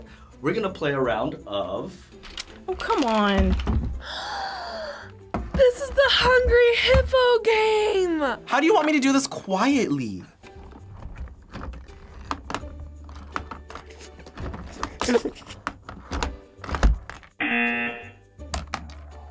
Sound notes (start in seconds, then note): 4.0 gasps; 10.7 hippos clicking; 15.0 laughs; 17.4 buzzer rings